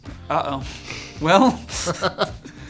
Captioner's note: snickering